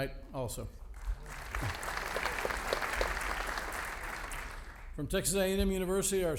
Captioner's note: audience applauding